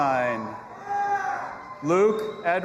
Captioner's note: audience applauding and cheering